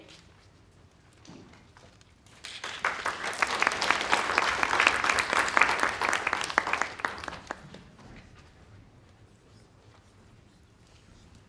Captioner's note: applause